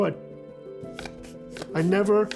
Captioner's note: cardboard whooshing